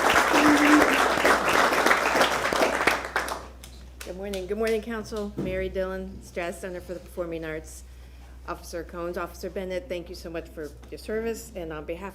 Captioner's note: applause